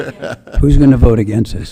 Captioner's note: laughing